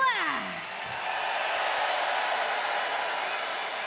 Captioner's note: crowd cheers